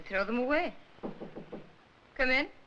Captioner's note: knocking on door